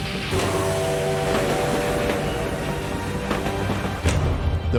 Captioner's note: dramatic music; train whooshing; train whistling